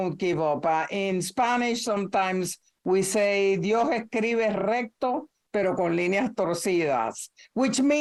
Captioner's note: speaking in spanish